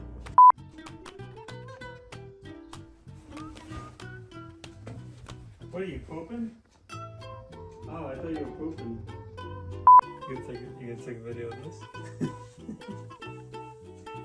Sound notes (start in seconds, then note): 0.4 beep; 3.2 soft movement; 5.8 yells downstairs; 9.8 beep; 11.8 laughs